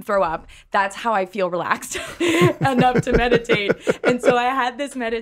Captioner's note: laughs